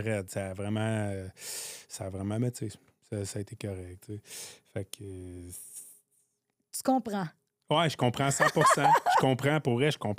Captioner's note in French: rires